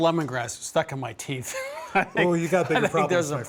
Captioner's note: laughing